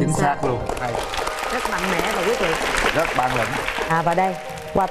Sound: clapping hands

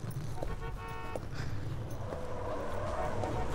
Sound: horn honking; scoffs; honking continues

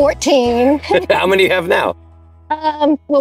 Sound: both laugh

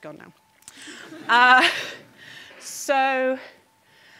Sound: audience laughing

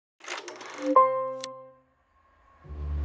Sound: film projector running; eccentric music

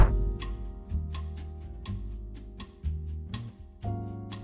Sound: clock ticking

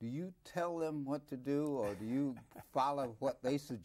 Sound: Herman laughs

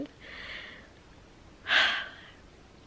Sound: happy sigh

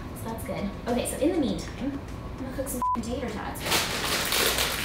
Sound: beep

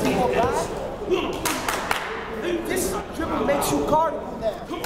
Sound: clapping drowning out speaker

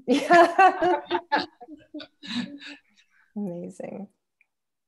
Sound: laughter

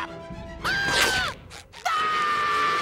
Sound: screaming

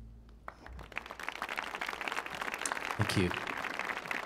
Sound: audience clapping

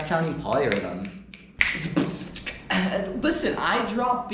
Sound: bewildered beatboxing

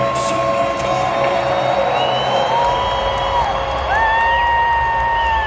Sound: cheering and applauding

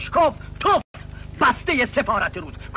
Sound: spit

